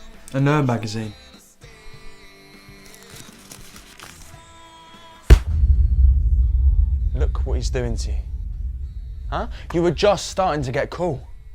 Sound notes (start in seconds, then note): 2.6 magazine crinkling; 5.3 magazine thuds; 5.3 dramatic beat